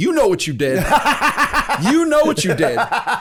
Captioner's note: laughter